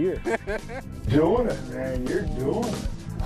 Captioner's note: laughs